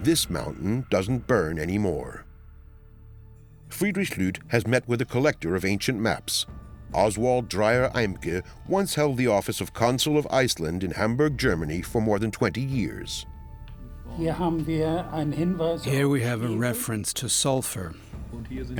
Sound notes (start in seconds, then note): 14.2 speaking German